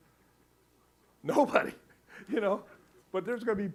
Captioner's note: laughing